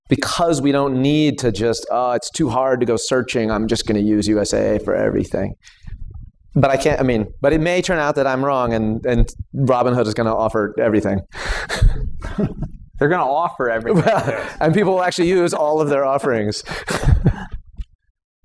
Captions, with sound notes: because we don't need to just, oh, it's too hard to go searching. I'm just going to use USAA for everything. But I can't-- I mean, but it may turn out that I'm wrong and Robin Hood is going to offer everything. [laughter] - They going to offer everything. - Right. And people will actually use all of their offerings.